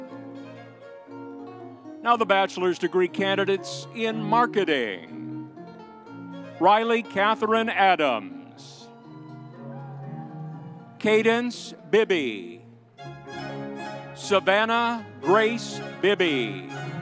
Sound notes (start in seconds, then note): 9.5 audience cheering